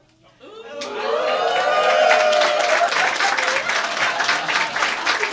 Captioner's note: audience oohs and applause